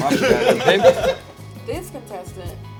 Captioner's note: laughter